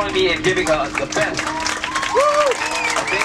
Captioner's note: cheering